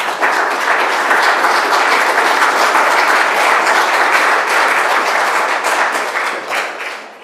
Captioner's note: applause